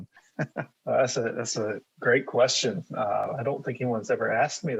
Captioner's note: chuckles